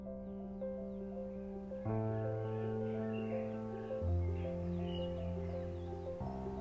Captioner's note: birds chirping; somber piano music